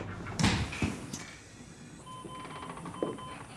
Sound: door opening sound

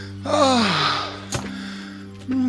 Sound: breathes heavily

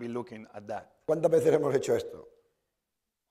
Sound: speaking spanish

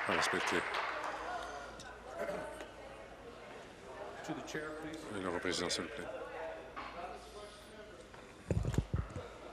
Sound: applause

